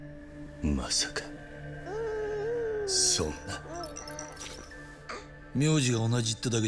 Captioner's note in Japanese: 泣き声